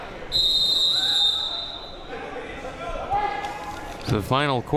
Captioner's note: whistle blowing